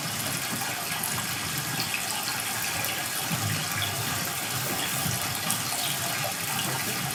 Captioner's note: water trickling continues